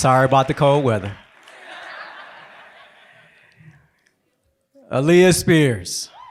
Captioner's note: laughter